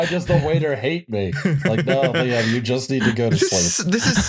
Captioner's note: laughs